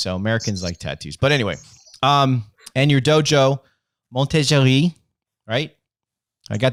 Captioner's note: speaking in French